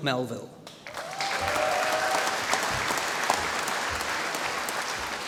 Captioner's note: applause